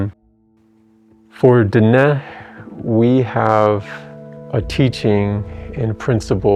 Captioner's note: in English